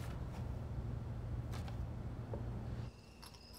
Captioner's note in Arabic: الصراصير